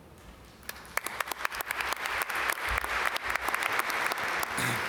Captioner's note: audience applaud